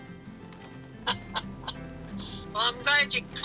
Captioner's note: grandma laughing